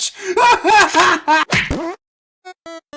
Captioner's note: light fart sound as Whoopee Cushion is punched